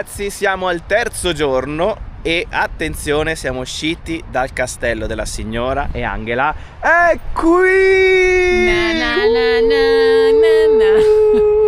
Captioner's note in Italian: urlo